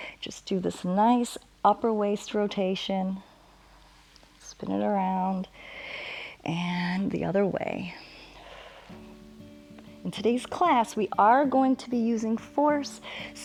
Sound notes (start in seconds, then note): 5.6 inhales; 8.2 exhales